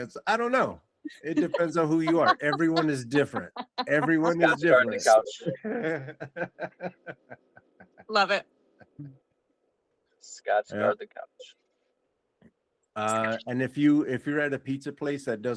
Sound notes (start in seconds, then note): 5.2 laughter